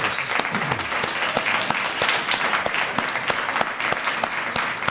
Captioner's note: applause